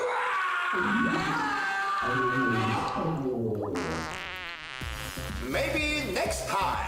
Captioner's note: groans